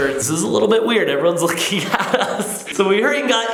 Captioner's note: laughs